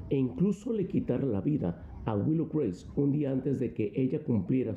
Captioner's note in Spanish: habla en ingés